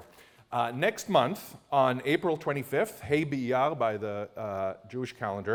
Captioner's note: non-english